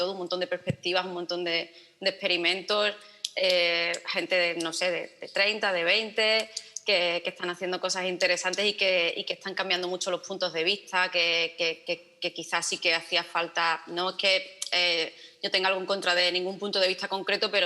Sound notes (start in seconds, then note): none